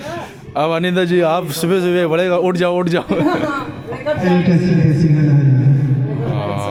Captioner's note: laughing